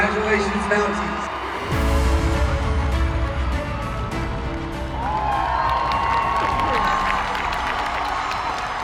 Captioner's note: cheering